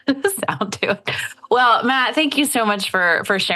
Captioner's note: chuckles